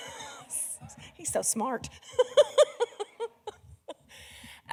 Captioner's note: laughs